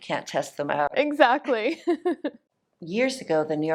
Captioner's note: laughs